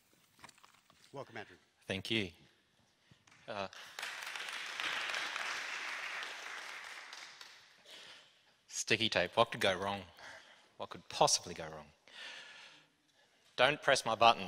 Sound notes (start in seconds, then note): 7.0 applause